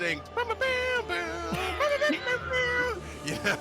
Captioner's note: hums